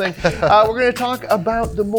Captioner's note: chuckles